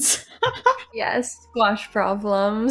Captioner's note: laughing